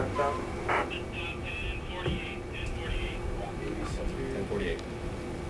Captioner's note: radio chatter